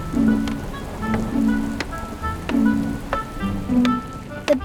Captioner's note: hammering